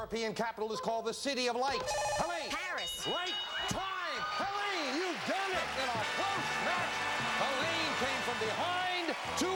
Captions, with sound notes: is called the City of Lights? -(buzzer) -Helaine? -Paris. -Right. -(bell) -Time! Helaine, you've done it! In a close match, Helaine came from behind to win.